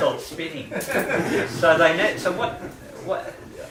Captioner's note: laughter